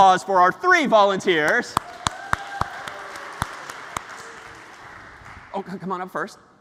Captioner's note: ปรบมือ